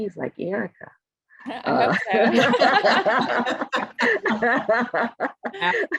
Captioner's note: participants laughing